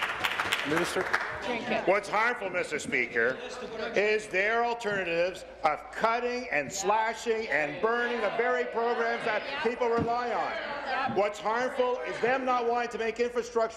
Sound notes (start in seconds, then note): 0.0 applause